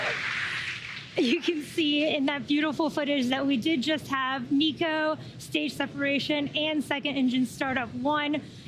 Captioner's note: cheering and applause